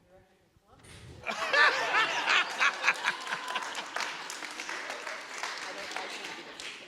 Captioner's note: audience laughing; audience applauding